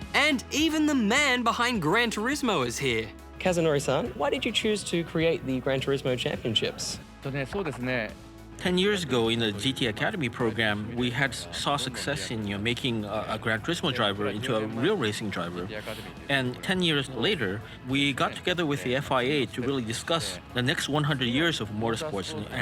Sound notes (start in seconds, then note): 7.1 speaks japanese